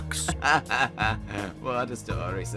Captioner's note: Tommy Wiseau laugh